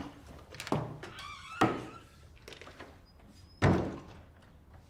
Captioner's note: door creaking